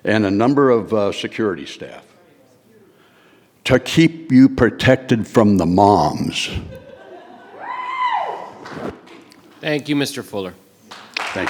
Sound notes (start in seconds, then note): 7.5 audience cheering